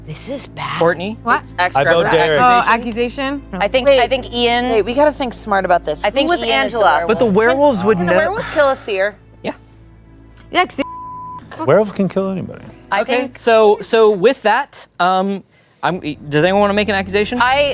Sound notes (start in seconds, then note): 10.8 beep